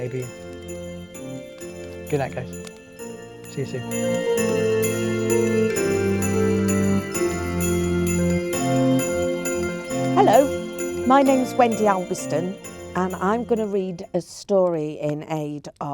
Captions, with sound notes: "Don't worry fish," he'd whisper, "Your secret is safe with me." (bells sound) And that was "The Monster in The Canal." (upbeat music) Now guys, I hope this Christmas,